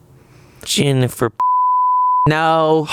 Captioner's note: beep